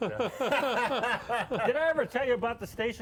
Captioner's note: laughing